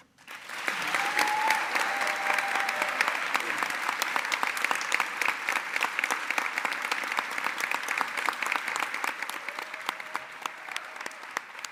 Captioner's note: applause